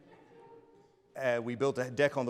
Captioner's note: audience laughs